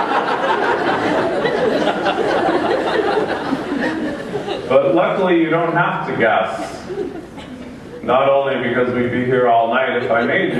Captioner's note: laughter